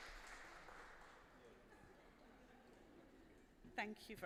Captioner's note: applause